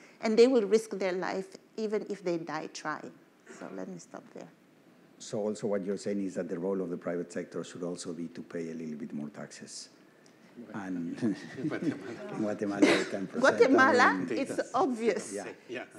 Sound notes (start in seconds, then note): 11.5 laughs